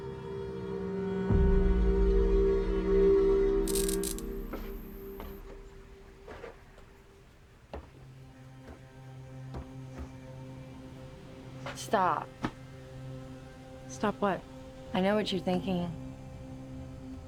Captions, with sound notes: (light buzzing) (footsteps tapping) Stop. - Stop. What? - I know what you're thinking.